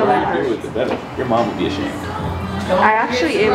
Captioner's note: laughing